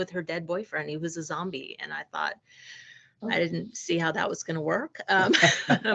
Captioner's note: laughing